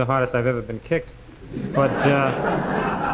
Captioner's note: audience laughing